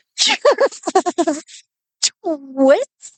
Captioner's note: laughing